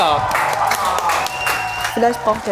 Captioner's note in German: Jubel, Applaus